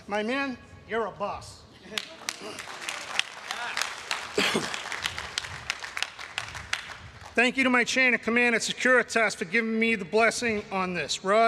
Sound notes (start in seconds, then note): 3.6 everyone cheering and applauding